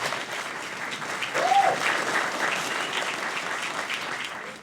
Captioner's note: cheering and applauding